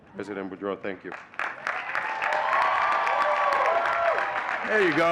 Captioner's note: audience cheering and clapping